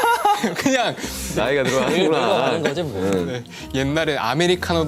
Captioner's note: haha